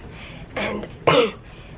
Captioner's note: clears throat